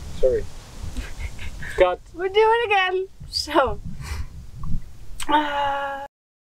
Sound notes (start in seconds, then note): 0.9 laughs; 5.3 sighs